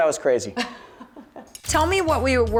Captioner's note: laughter